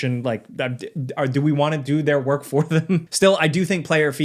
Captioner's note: chuckles